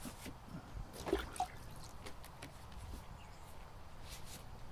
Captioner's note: brush scraping; water dunking